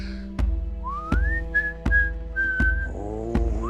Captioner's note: Charles whistling